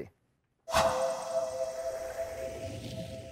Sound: sound effects

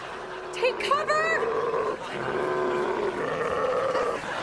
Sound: grunting

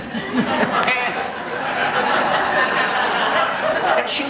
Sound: audience laughing

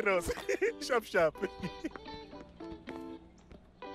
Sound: chuckles

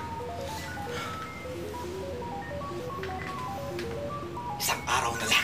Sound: panting; computers beeping

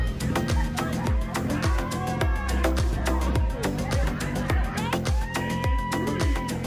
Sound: crowd cheering

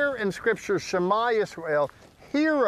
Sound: speaking in Hebrew

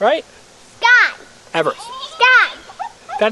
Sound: voiceover

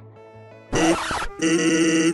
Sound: record scratch

